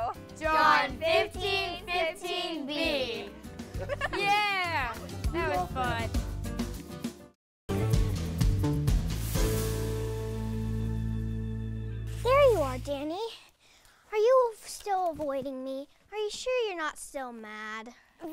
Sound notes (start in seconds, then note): 3.7 laughter; 6.5 upbeat music